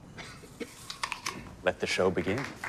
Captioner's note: coughing; apple crunching